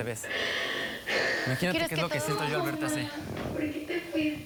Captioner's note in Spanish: Sollozos